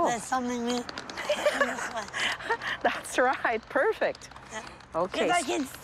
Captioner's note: laughs